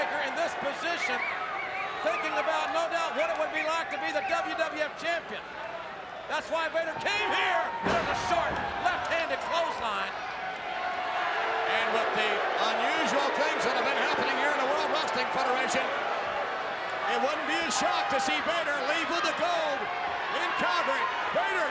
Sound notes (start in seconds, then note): 11.4 crowd booing